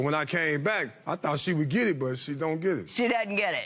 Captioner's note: none